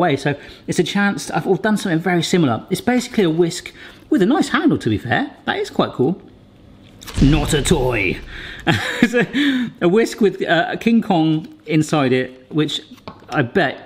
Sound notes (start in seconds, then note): 8.0 laughs